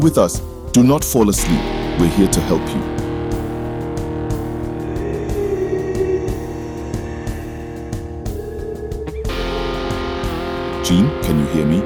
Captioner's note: Background voice yelling “Gene”